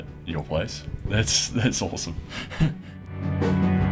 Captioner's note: laughs